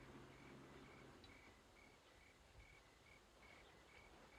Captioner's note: crickets chirping